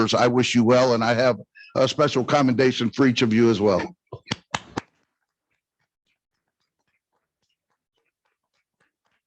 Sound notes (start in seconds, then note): 4.3 congregation clapping